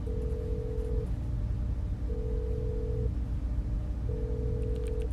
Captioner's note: phone line ringing